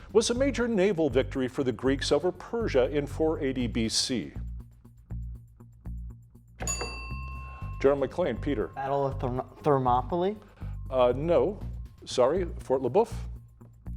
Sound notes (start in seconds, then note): 6.6 bell dinging